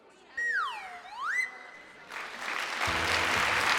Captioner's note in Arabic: صافرة الانزلاق; الجمهور يصفق